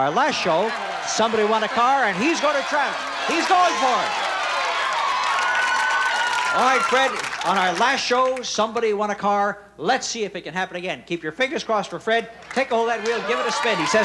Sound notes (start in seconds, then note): 5.6 cheers